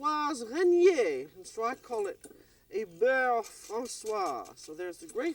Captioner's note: french